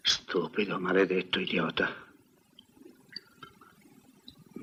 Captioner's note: none